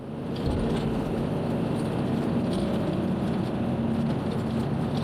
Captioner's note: van engine roaring angrily